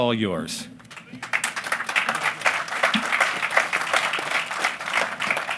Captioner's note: applause